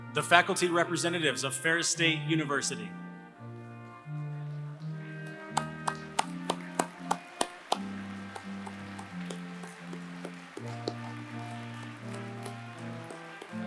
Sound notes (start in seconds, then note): 3.0 applause